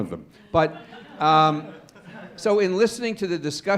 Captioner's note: laughter